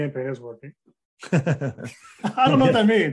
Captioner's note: laughing